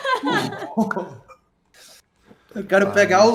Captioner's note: crying